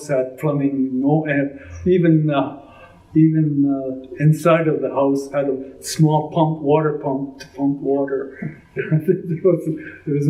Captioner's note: laughs